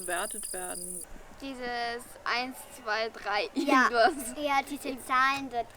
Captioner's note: laugh